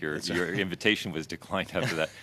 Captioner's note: laughter